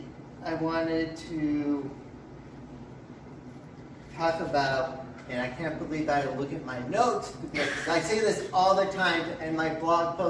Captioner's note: laugh from audience